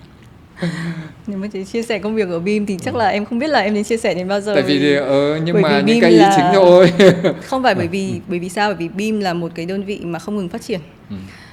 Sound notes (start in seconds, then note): 5.6 laugh